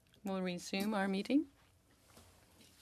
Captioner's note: speaking French